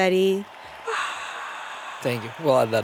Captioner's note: crowd cheers; cheers